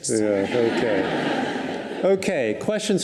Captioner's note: audience laughs